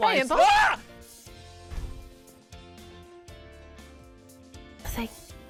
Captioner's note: scream